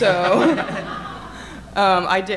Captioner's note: audience laughing